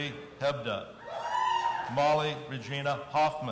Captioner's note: audience cheering